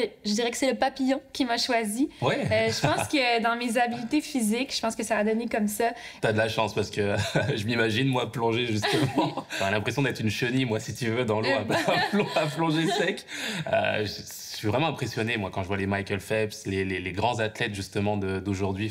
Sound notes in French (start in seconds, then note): 11.4 rires